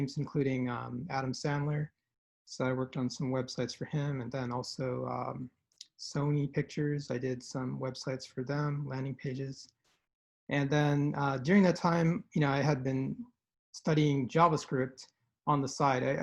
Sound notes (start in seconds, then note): none